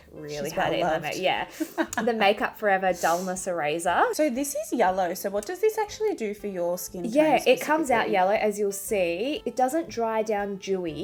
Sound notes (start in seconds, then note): 2.2 laughing